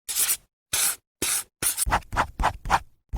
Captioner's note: scribbling